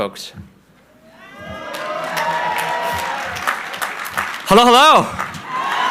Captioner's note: crowd cheering